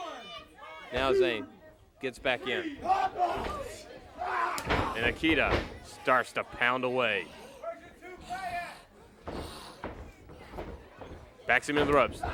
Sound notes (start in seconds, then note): 1.3 crowd chatter; 4.7 crowd chatter